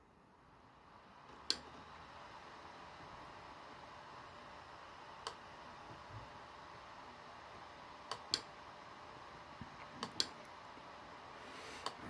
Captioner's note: laptop dvd drive spinning